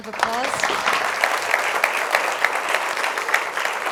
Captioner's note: applause